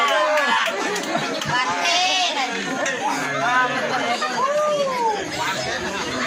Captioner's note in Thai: ปรบมือ; ปรบมือ